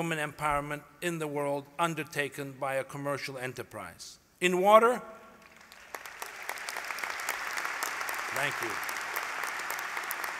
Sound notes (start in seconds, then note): 5.4 applause